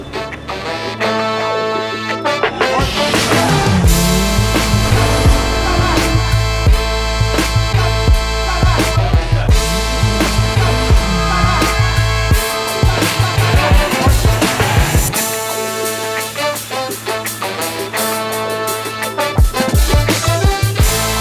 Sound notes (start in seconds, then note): 0.1 upbeat music continues; 2.7 car engine roars; 11.0 siren wails; 13.4 upbeat music continues